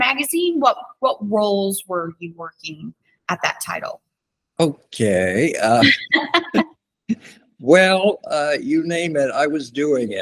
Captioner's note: laughter